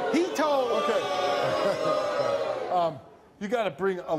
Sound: audience jeering

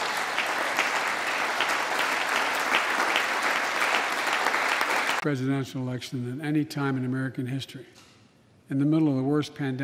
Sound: applse

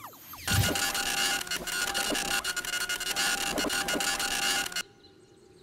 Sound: scratching noise

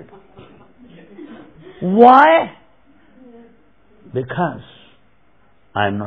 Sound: laughter

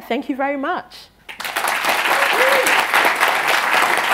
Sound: applause

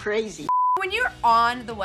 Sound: beep

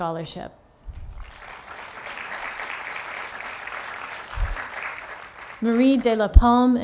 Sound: applause

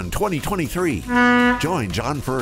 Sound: boat horn hoots

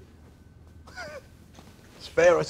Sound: chuckles gently

